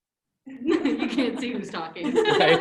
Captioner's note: laughs